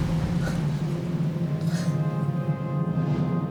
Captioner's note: gasping; somber music